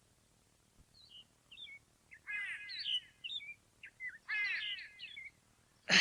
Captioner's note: SFX: birds